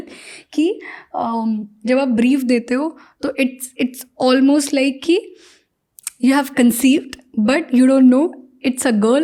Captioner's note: speaks in Hindi